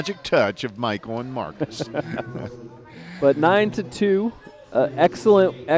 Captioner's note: laughter